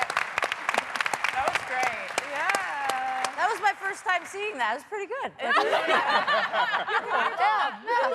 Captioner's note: applause